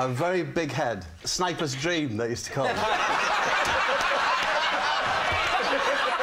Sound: laughter

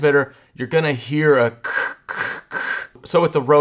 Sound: imitates static buzzing

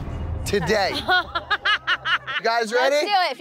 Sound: woman laughs

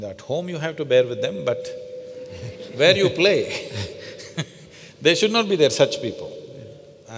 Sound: laughter

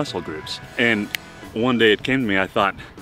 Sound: fingers snapping

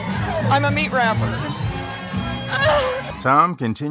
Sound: laughter

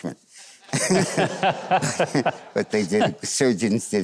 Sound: Mike laughs

